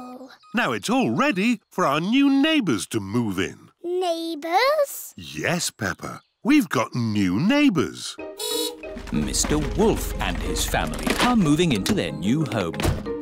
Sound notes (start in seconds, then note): 8.4 horn beeps